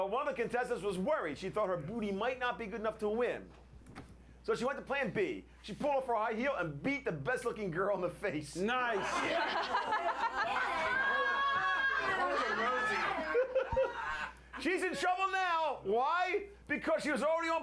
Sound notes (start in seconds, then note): 14.1 laughter